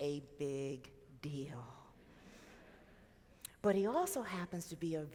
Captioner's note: audience laughs